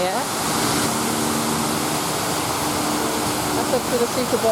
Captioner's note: splashing water